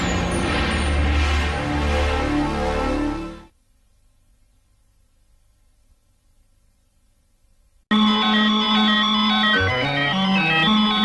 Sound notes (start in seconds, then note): 3.9 VHS static; 7.9 analog synthesizer music plays